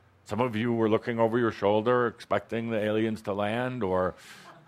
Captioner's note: some laughter